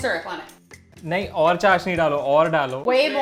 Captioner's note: speaking in Hindi